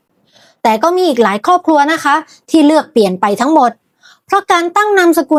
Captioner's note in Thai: เสียงสูดหายใจ